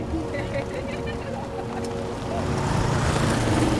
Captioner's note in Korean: 해녀들 웃음 소리